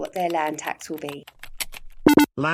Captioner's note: typing sound; computerised beep sound